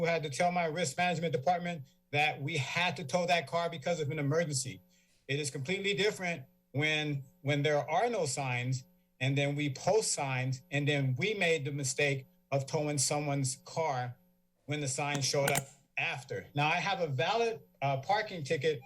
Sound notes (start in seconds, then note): 15.2 mic distortion; 18.6 feedback